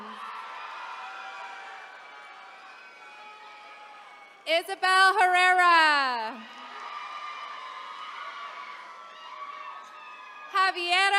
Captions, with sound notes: (attendees cheering) Isabelle Herrera. (attendees cheering)